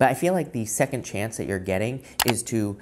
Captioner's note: button clicks